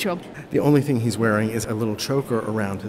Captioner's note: voiceover